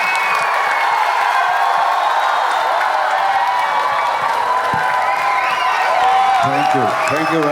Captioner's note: crowd applauding